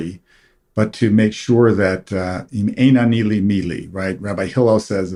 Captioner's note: hebrew